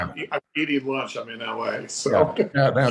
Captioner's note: giggling